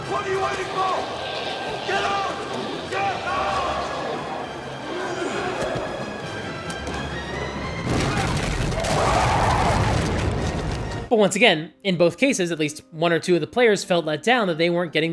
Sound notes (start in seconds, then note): 7.8 explosion